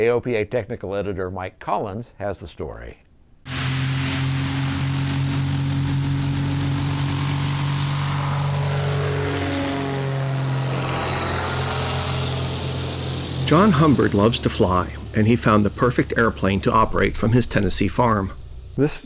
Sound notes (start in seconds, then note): 3.8 airplane engine revving